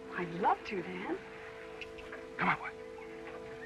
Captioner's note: clicking sound